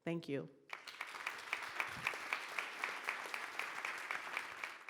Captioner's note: audience applauding